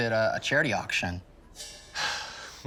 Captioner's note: sighs